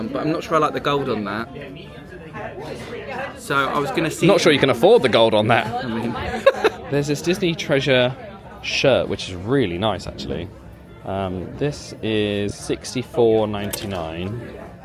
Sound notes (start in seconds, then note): 6.1 laughs